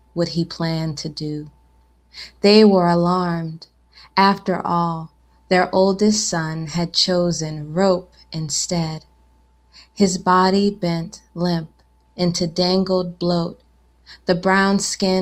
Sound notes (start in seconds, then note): none